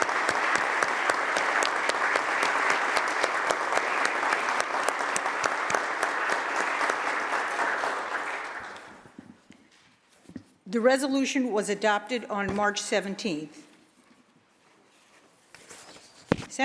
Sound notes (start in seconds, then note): 4.2 applause